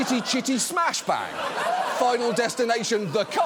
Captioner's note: audience laughs